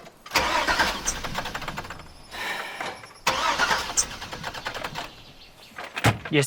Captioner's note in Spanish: Intenta encender el motor dos veces